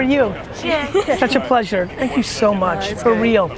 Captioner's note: laughs